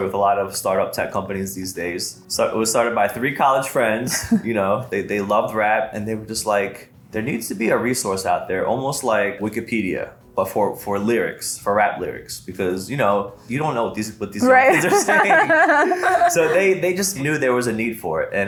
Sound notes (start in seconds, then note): 14.4 laughs